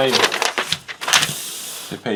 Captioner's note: paper crinkles